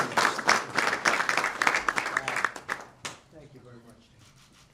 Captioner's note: applause